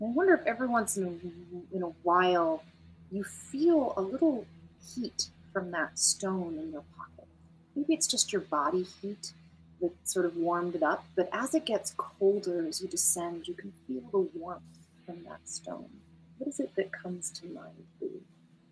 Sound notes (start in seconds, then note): none